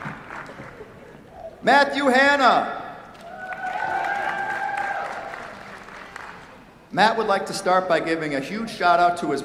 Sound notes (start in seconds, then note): 0.0 applause; 3.2 cheers, applause